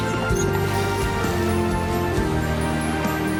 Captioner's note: mongrel whimpers